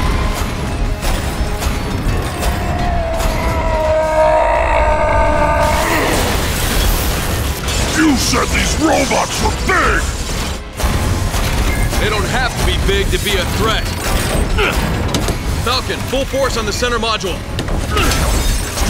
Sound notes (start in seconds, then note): 1.9 yelling